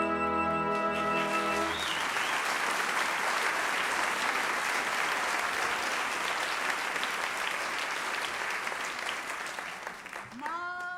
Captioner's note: applause